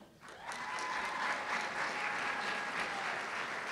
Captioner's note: applause